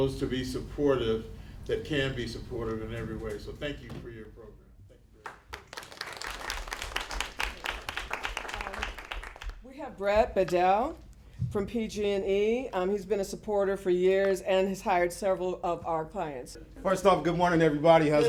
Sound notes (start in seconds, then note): 5.2 applause